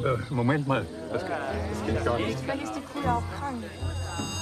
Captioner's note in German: Ein Raunen geht durch die Menge